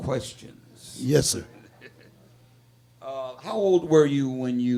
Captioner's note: laughing